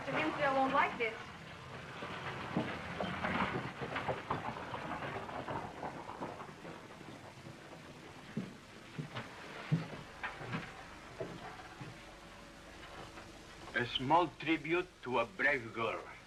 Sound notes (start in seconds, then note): none